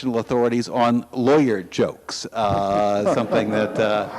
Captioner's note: audience laughs